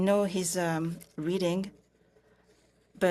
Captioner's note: speaking French